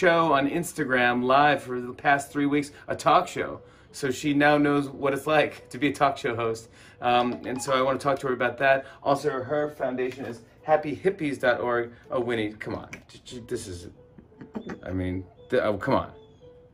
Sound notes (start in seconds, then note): 14.2 laughs